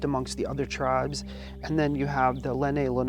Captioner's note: laughs